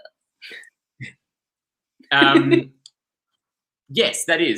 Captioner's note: both laugh